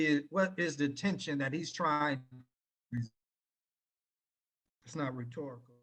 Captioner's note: audio cuts out